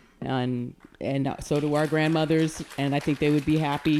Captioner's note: audience applauding